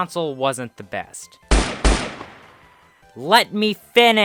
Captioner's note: gunshots